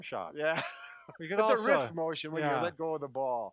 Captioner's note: laughs